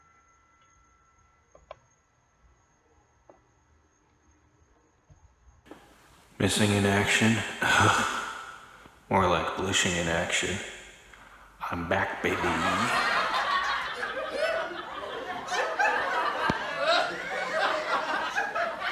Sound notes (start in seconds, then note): 8.4 scoffs; 11.6 background laughter